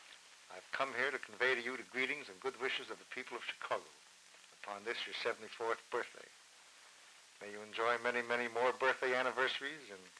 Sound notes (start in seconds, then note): none